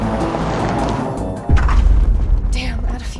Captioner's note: engine stalls